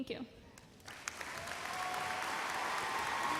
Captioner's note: applause